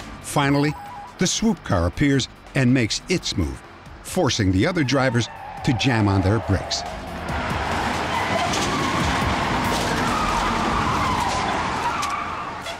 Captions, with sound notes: Finally, the swoop car appears and makes its move, forcing the other drivers to jam on their brakes. [tires screeching]